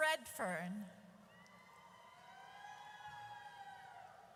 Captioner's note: audience cheers